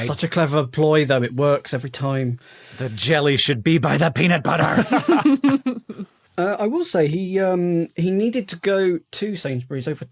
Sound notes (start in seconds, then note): 4.5 laugh